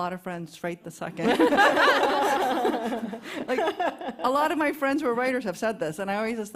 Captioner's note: laughs